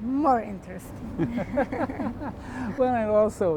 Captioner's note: laughter